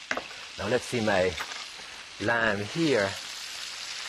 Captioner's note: pan sizzling